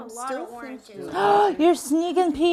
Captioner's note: gasping